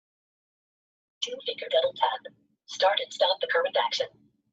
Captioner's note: system voice